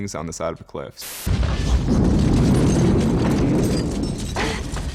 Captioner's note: explosion